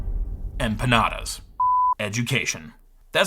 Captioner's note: tone beeps